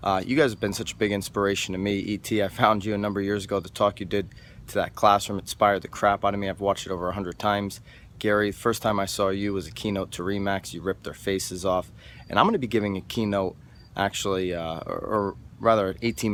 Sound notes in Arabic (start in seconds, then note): none